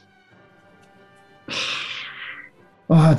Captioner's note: sighs